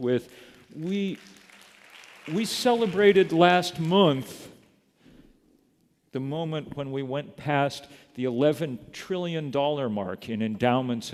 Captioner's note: applause